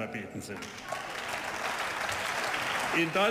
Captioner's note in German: Beifall